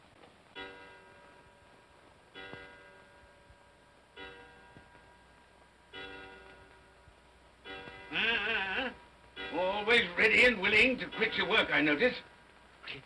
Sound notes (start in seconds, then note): 0.2 clock chimes; 8.1 Scrooge grumbles